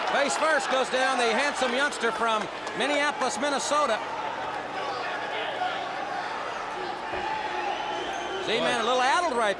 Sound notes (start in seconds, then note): 4.1 crowd chatter